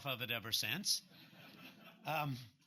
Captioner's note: laughter